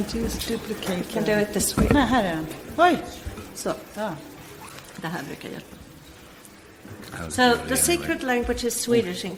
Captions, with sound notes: - Hang on, can't you duplicate. - Do it this why. - No hang on, wait. (speak in foreign language) - So the secret language is Swedish